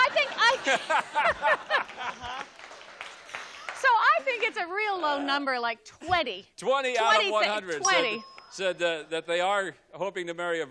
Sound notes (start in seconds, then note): 0.0 laughter; 3.2 Bob laughs